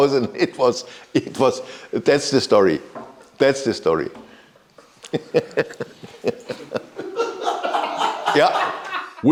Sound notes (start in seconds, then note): 5.0 laughs; 7.2 crew laughs